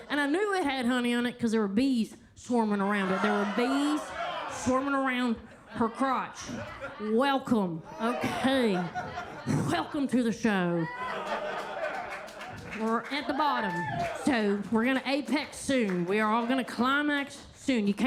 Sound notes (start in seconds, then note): 3.7 attendees laughing; 8.0 attendees laughing; 10.8 attendees cheering; 10.8 attendees laugh and clap